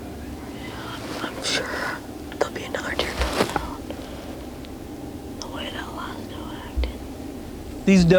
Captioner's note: whispering